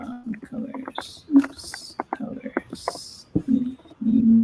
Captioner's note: object rustling